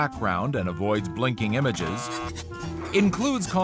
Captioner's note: zapping noises; buzzer